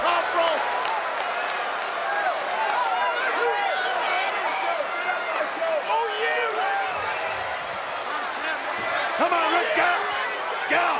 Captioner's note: applause